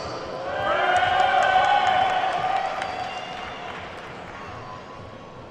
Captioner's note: attendees whooping and clapping